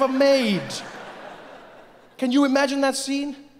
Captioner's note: audience laughing